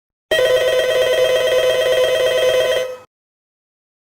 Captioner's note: phone rings